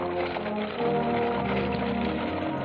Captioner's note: horses trotting